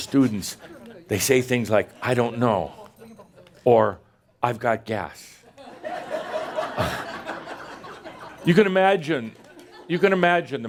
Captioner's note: laughter